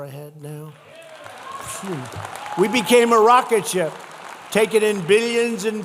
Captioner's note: applause